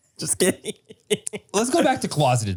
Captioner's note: Manny laughs